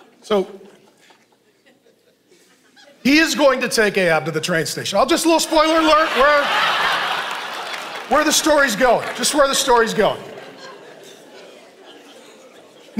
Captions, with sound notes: So, he is going to take Ahab to the train station. Just a little spoiler alert, (congregation laughing) where the story's going. Just where the story's going. (congregation laughing)